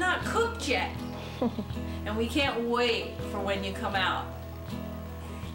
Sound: chuckles

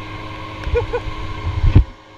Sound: laughing

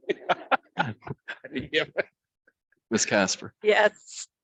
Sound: laughs

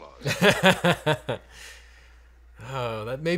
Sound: laughing

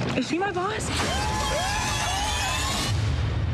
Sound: screaming

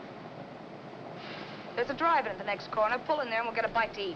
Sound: sighs

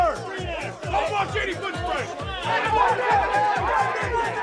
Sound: more yelling

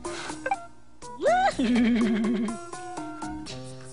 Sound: weird giggling

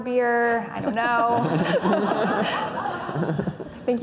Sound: laughing

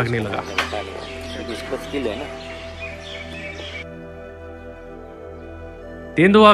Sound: birds chirping

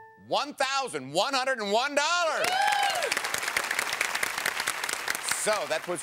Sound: cheering

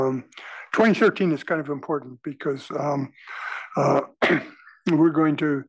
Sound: cough

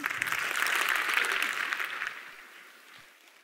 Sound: applause

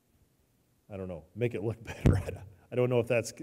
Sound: chuckles

